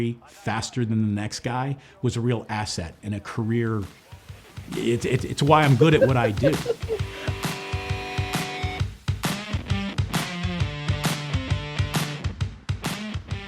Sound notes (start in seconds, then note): 6.5 men laughing; 6.5 upbeat music